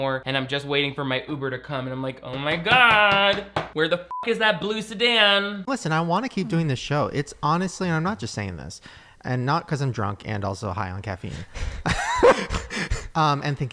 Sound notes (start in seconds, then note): 4.1 beep; 11.8 laughs